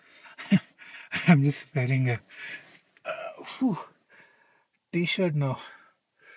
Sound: laughs

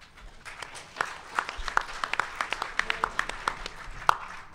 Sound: audience applause

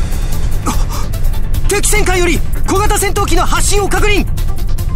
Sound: gasp

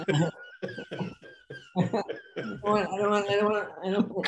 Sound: Denis laughing

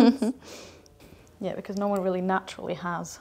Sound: chuckling

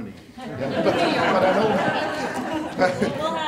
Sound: audience laughing

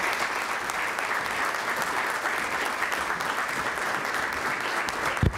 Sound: applause

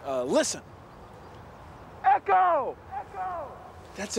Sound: echoing

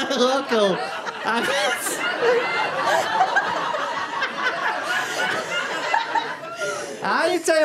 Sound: very unprofessional, full blown corpsing

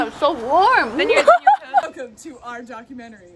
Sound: laughing

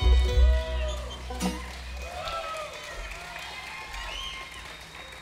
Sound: audience applauding

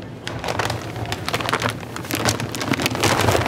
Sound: bag rustling

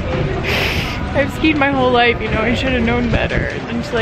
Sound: sniffs

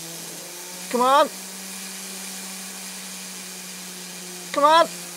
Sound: whirring

